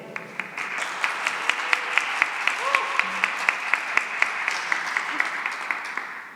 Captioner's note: cheering and applause